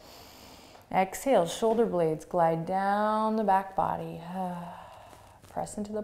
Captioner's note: sighs